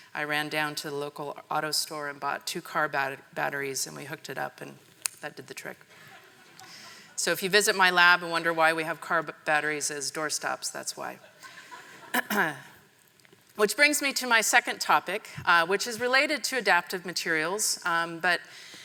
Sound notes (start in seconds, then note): 11.2 members of the audience laughing